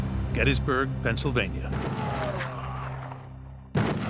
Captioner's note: gunshots